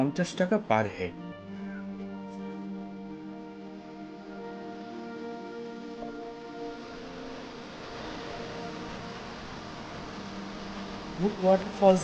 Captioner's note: sound of Nature